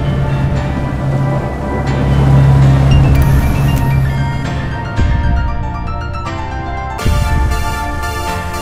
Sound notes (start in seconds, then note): 3.1 text beeps